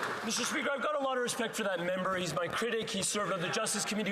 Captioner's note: some Applause